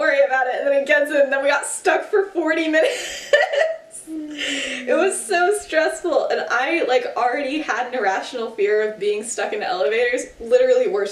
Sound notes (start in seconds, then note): 4.2 laughs